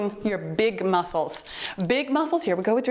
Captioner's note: timer beeps